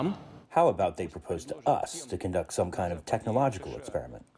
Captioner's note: through translator